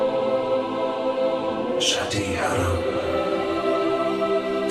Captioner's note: Urdu - mantido no original